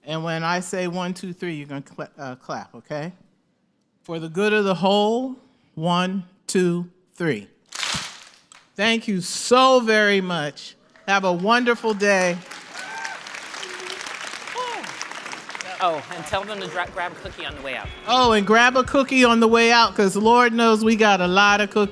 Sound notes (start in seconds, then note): 7.7 clap; 12.6 applause